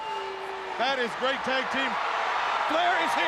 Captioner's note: crowd chatter